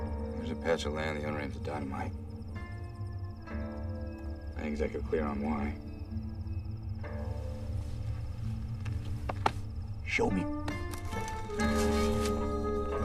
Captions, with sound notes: I ain't exactly clear on why. Show me. [ Shovel Digging ]